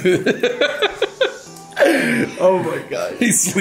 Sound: laughing

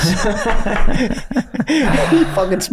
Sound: all laughing

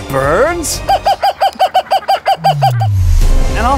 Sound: bird squawking

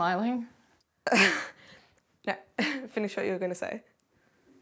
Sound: chuckles

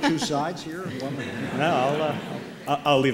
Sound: laughter

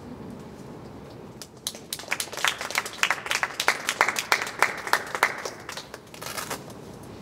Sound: clapping

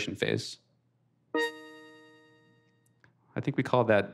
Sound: ringtone

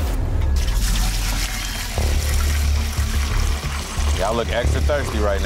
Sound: dramatic music; water splashing

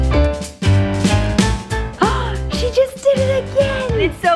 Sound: bouncy music; gasps

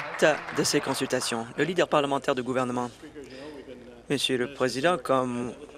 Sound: applause

